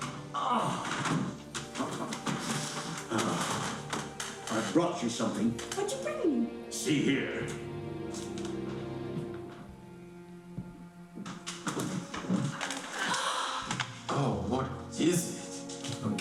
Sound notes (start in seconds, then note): 7.9 soft music; 11.9 gasping